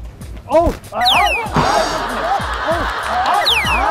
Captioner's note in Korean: 풀썩